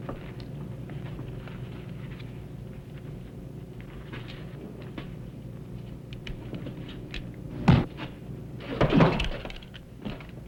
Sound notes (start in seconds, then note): 7.4 thump; 8.9 body thuds